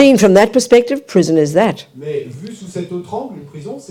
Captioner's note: French